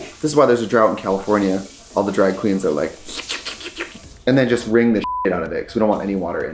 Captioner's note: slurping